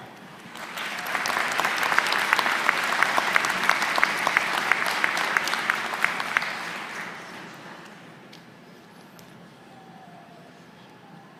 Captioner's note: applause